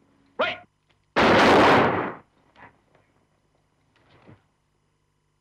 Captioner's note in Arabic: صوت طلقات نارية